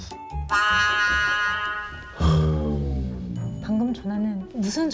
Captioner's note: A deep sigh